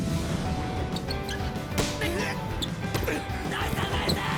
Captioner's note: sounds of playing volley ball